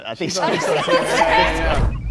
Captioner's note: group laughs; distorted beeping